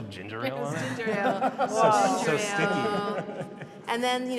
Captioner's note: laughs